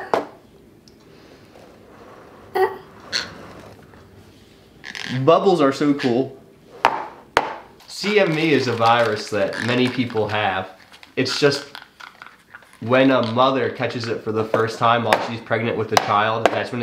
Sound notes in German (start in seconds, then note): 6.8 Tasse klopft auf den Tisch; 16.0 Tasse klopft auf den Tisch